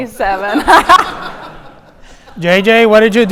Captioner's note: audience laughing